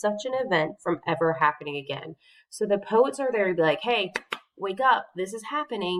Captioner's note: clapping noise